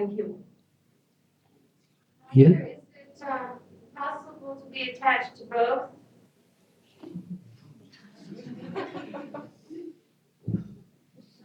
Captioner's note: laughter